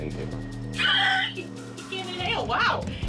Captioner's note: laughs